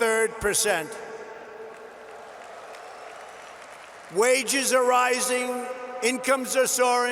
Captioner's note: applause